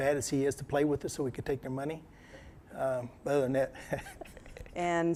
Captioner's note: laughter